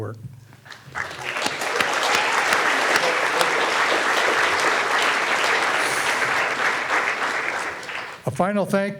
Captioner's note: all clapping